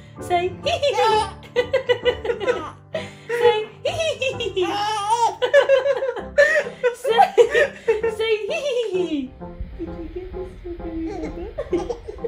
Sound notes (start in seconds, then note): 0.0 giggles; 0.0 laughs; 0.9 giggles; 4.5 giggles; 5.4 laughs; 10.8 laughs; 11.0 giggles